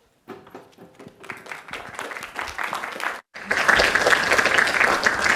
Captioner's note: applause